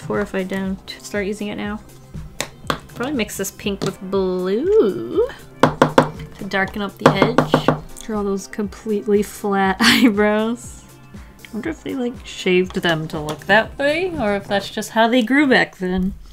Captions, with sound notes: if I don't start using it now. Probably mix this pink with blue. [Tap, tap, tap] To darken up the edge, [More tapping] Draw those completely flat eyebrows. [Laughs] Wonder if they shaved them to look that way or if that's just how they grew back then.